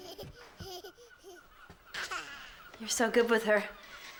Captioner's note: baby laughing